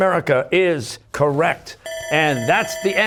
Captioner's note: bell ringing